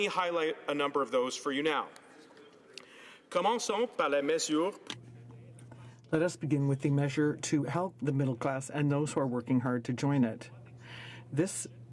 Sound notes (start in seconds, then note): 9.5 speaking french